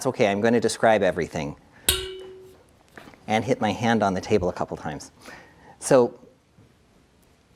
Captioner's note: boing